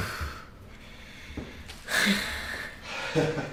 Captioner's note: sighs